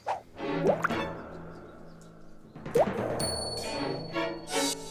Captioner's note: drip